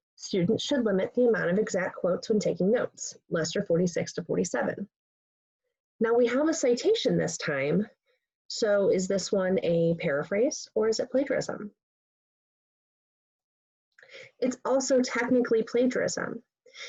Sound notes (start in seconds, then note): 11.8 pause